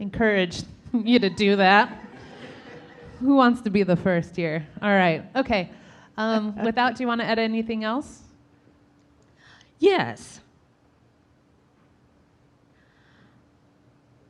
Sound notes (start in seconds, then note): 1.2 audience laughing